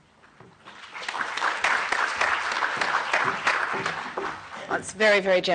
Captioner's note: applause